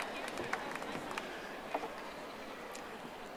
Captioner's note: audience applauding